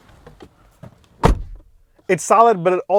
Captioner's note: car door closing